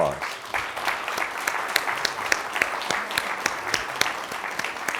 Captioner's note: crowd applauds